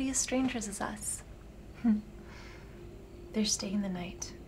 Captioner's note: Claire chuckles